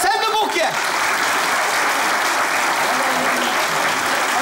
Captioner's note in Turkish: Alkış sesleri